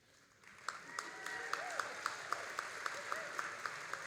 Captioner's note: all applauding